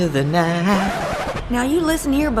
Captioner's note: record scratch